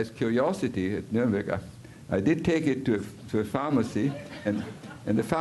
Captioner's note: audiencia riéndose